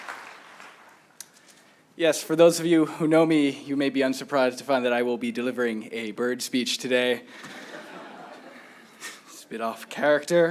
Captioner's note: applause